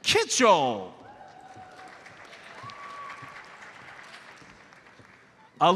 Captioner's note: audience applauds